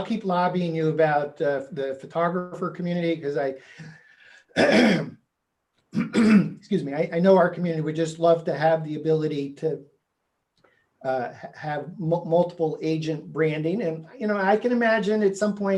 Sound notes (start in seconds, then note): 4.5 clearing throat